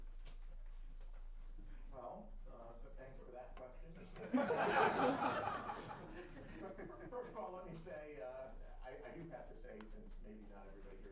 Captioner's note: laughter